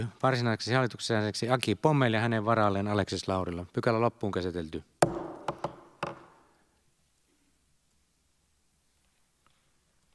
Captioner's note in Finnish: Nuijan kopautus